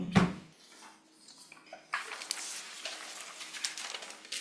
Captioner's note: papers shuffling